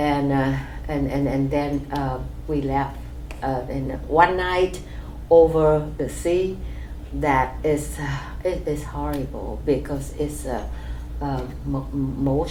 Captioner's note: sighs